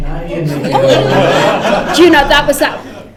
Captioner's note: laughter